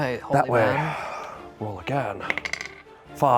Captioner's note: sighs